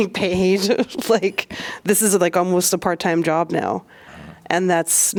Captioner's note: laughter